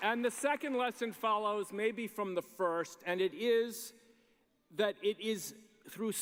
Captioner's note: applause